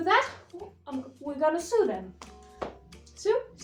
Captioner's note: smack* while throwing the sewing pieces on the desk